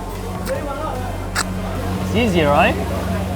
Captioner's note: sucking